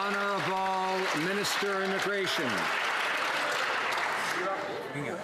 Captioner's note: some Applause